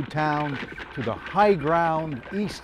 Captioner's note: horses trod